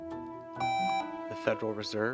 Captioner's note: buzzer beeps